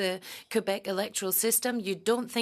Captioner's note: speaking French